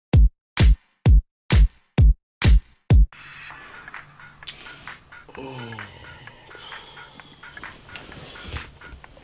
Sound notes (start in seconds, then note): 5.1 sighs